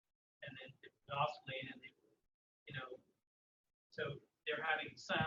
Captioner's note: audio drops